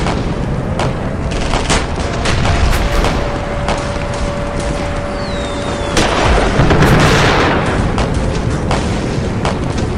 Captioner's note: aerial bombs exploding